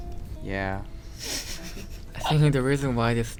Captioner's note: laugh